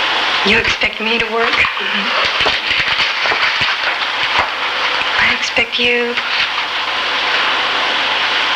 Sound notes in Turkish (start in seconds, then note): 3.1 güler